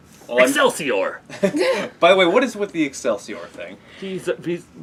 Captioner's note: laugh